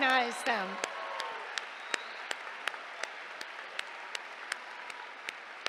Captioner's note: cheers, applause